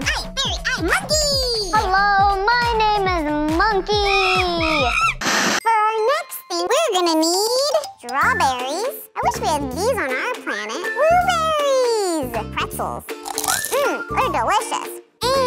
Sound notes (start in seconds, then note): 4.0 monkey screeching; 13.2 pretzel crunching